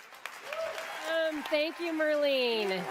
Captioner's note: applause